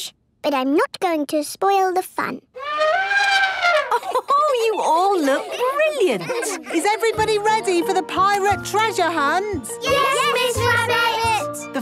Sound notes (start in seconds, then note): 2.5 trumpeting; 3.2 Mummy Pig laughing